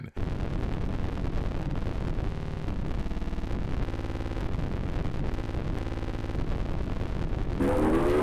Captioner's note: static hum; loud game sounds